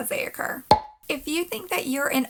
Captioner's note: pop